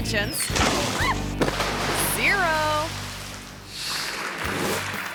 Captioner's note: diver splashes; camera person yelps; chair cracks; screen swooshes; crowd applauds